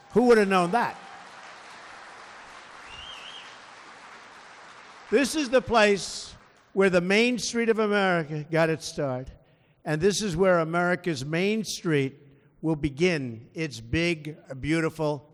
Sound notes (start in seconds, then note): 0.0 applause